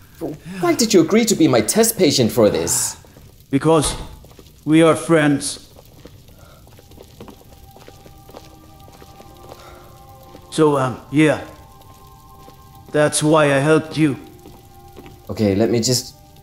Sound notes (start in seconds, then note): none